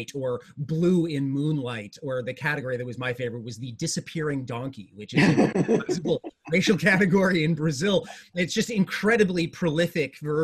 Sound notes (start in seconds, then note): 5.1 laughs